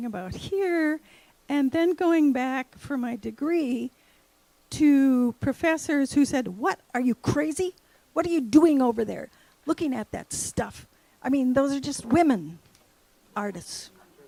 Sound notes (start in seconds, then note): none